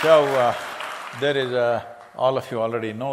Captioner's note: cheering/Applause